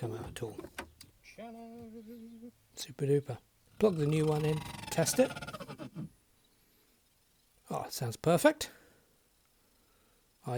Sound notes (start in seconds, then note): 3.8 horrific grating sound